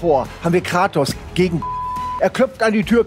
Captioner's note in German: Piepsen